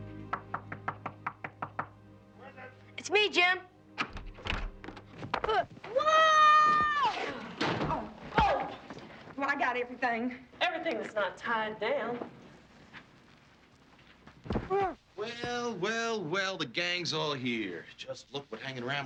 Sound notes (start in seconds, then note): 0.7 door knocking; 5.6 groaning; 14.9 Huck groaning